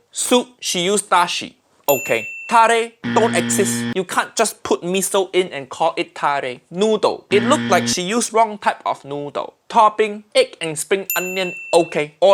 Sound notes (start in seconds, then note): 1.9 bell dinging; 3.0 buzzer buzzes; 7.3 buzzer buzzes; 11.1 bell dinging